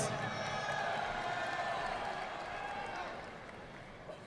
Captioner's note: audience clapping